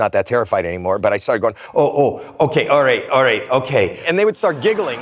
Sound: echoes

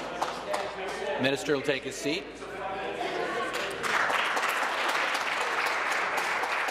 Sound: voice trailing

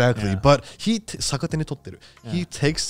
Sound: speaking in foreign language

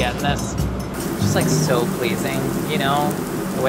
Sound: pan sizzling

